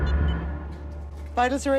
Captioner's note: alarm beeping stops